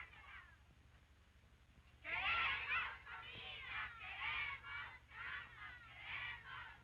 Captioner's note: women chanting slogans in Spanish